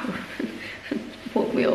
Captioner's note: laughs